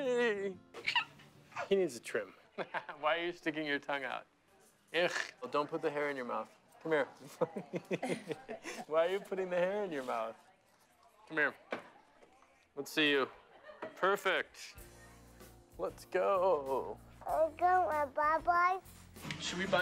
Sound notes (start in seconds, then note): 2.5 chuckles; 7.3 laughter